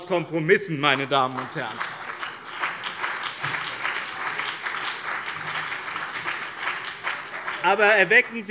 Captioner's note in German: Beifall BÜNDNIS 90/DIE GRÜNEN und CDU